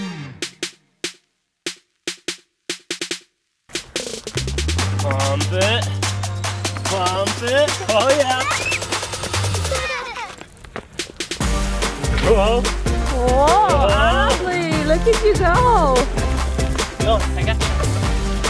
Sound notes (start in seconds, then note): 7.2 children laughing